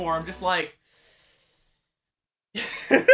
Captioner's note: inhaaAAAALE and rubs hands